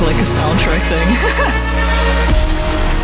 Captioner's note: laughing